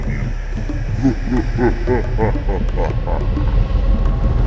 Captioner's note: evil tiki laughter